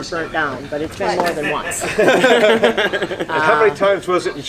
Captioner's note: all laugh